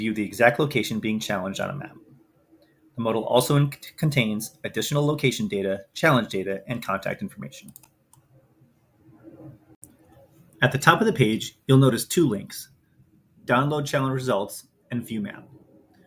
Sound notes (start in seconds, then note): 7.6 mouse clicks